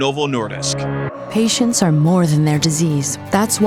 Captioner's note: voiceover